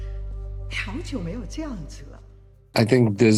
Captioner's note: speaking in Mandarin